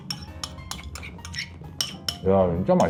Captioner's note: scrape Scrape